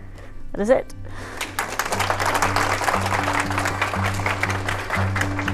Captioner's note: applause